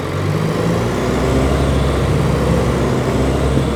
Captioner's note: bus engine roars